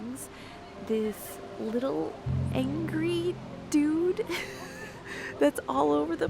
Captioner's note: laughs